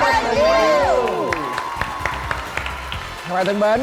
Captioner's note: applause